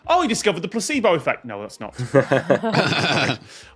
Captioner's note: guests chuckling